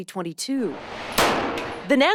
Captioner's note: gun firing